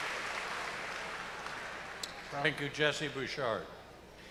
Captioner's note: cheers and applause